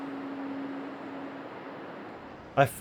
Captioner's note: wind blowing